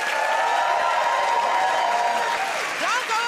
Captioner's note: cheers and applause